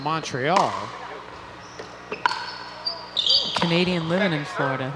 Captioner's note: ball bouncing